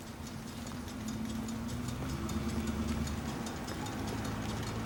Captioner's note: engine whirring